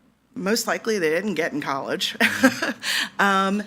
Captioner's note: laughs